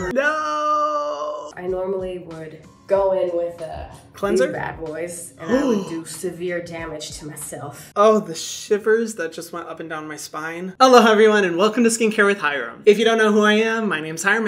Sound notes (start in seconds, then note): 5.4 Hyram gasping